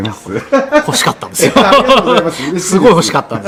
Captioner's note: laughs